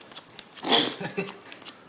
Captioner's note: MONK snickers